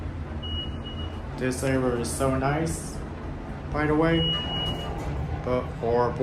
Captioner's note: elevator Chime Beep